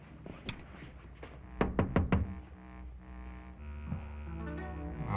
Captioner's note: knocking